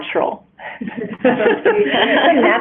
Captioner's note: laughter